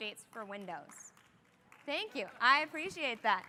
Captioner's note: applause